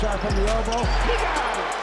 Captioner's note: crowd cheers